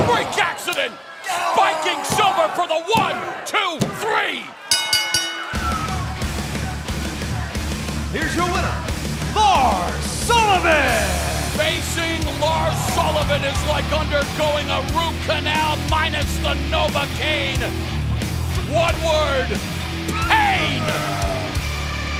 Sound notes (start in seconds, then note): 4.6 bell ringing